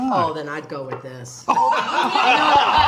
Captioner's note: all laughing